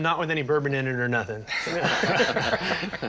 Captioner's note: laughter